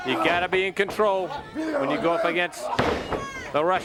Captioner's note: crowd chatter